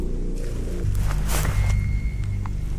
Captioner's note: something walking through leaves